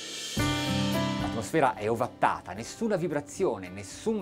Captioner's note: speaking in foreign language